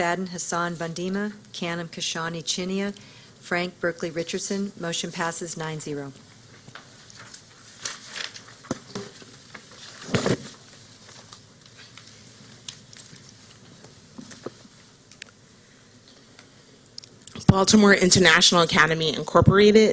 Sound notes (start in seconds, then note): 8.9 silence